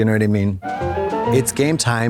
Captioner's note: bright chime